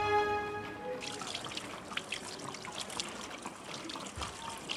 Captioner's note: sound of running water and the city in the background